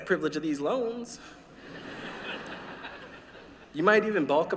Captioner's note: laughter